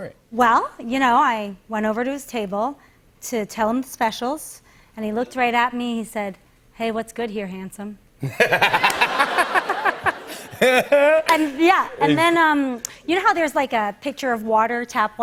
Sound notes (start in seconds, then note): 8.2 laughter